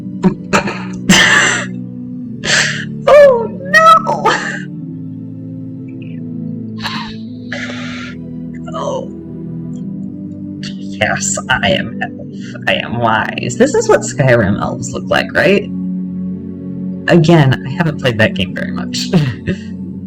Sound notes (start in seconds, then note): 0.2 laughter; 9.1 weird voice; 19.1 laughter